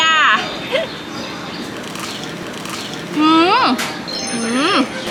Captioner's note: crunch